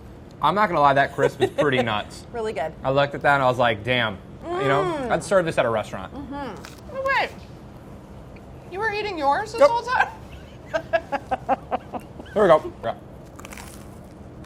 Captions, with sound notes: - I'm not gonna lie, that crisp is pretty nuts. - Really good. - I looked at that, I was like damn, you know? I'd serve this at a restaurant. - Hey, you were eating yours this whole time? [laughing] - Here we go.